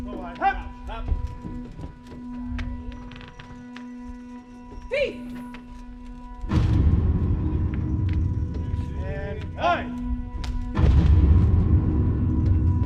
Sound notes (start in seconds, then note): 4.9 woman yells